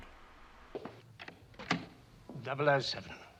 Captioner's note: footstep, click